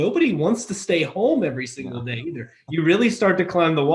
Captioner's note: laughs